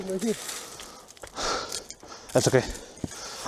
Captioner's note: pants in filipino